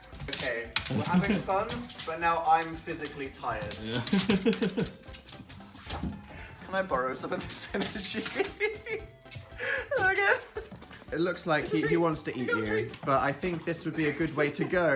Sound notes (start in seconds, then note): 3.7 laughs; 7.7 laughing